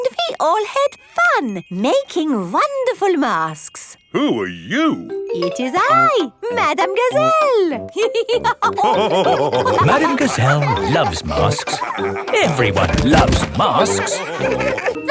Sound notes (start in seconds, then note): 8.4 all laughing